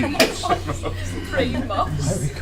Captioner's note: all laugh